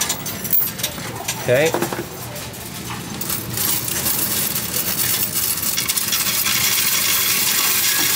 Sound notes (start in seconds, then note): 4.6 coins rattling